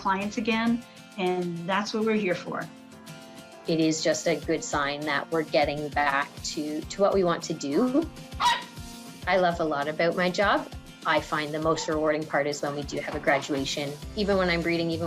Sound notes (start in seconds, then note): 8.4 puppy barking